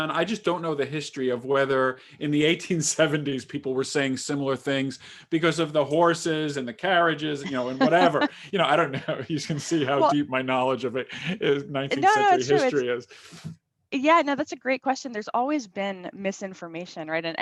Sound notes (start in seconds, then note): 7.2 laughs; 9.8 chuckles